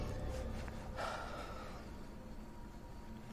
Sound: sighs

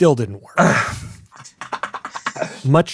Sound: sighs; laughs

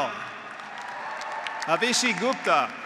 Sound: graduates applauding; graduates cheering

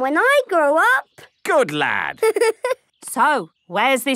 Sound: giggling

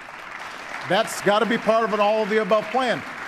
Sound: applause

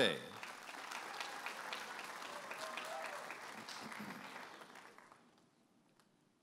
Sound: audience applauding and cheering

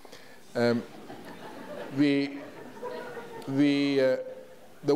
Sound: audience laughs

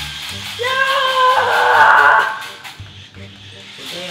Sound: shouting

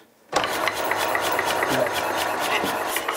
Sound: relaxing, regular clicking

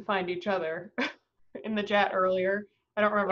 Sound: chuckles

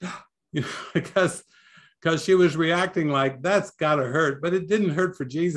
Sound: gasp

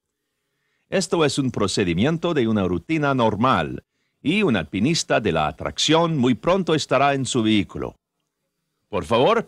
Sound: speaks Spanish; in Spanish

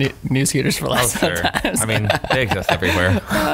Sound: laughing

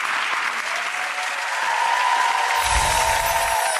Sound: audience cheering

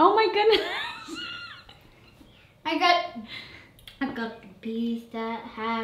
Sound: laughs

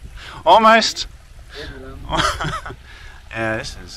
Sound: laughing

